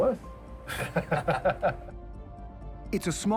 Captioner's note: both laughing